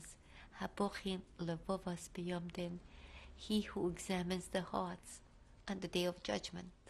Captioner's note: hebrew